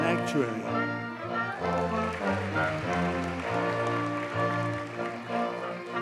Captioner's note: audience cheers and applauds